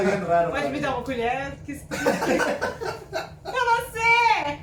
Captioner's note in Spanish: risas